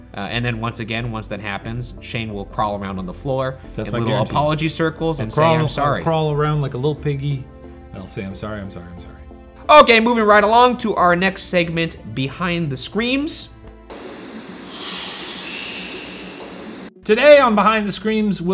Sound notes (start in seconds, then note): 13.6 screen fizzing